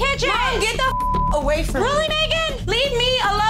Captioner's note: beep